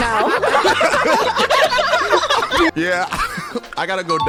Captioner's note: everyone laughing